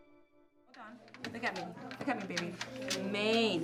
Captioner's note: classroom sounds